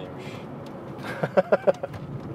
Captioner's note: laughing